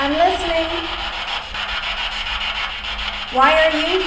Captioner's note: static buzzing